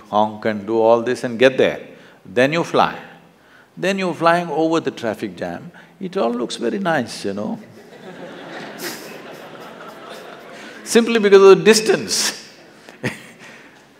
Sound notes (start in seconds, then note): 7.6 laughter; 13.2 laughs